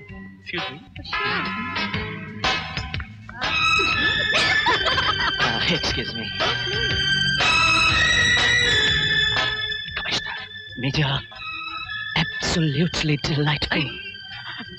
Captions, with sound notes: Excuse me. - Oh, sure. [Laughing] Excuse me. - Oh, please. Commissioner. - Major.. absolutely delightful.